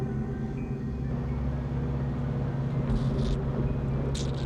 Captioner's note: fan whirring; light buzzing